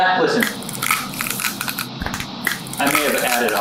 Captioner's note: exaggerated rattling